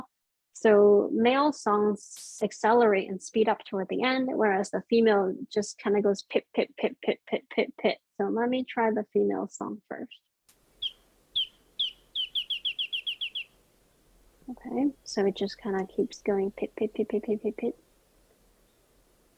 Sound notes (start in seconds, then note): 11.3 bird singing